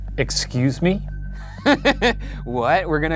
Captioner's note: laughing